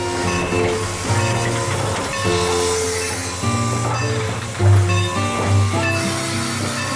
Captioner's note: music, Locomotive Bell Clanging